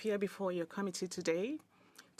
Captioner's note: speaking in French